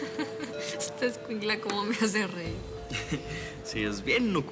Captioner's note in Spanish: risas